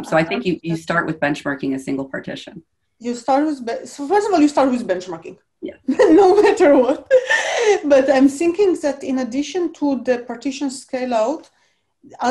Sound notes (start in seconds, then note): 5.8 chuckles